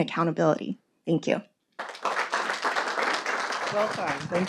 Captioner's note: audience applauding